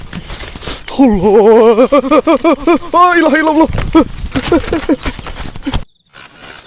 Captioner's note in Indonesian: tertawa